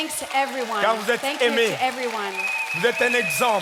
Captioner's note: speaking in French